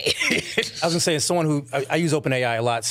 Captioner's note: laughing